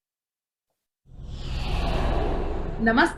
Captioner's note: air whooshing